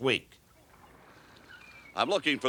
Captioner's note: birds chirp